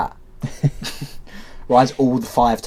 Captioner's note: laughs